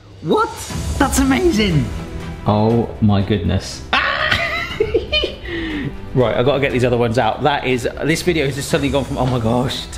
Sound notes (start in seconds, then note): 1.4 inspirational music; 3.9 squeals